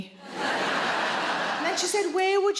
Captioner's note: audience laughing